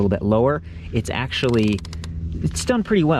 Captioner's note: pedal ratchets